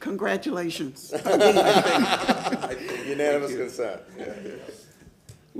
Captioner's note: laughter